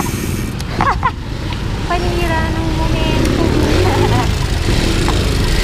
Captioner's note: laughs